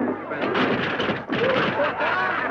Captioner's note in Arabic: تحطم الكرسي; الزبائن يضحكون